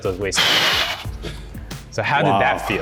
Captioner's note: exhales